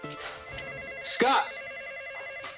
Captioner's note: telephone ringing